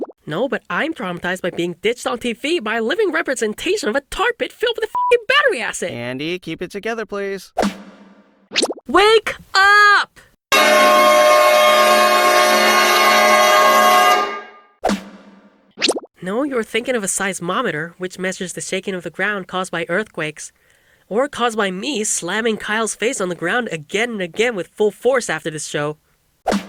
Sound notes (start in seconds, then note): 8.8 yelling; 10.5 loudest, jazziest car horn ever